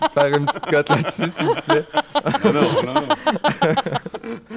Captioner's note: laughs